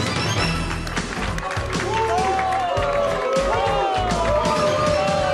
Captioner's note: energetic music; audience booing